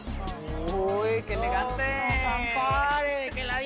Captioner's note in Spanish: Exclamaciones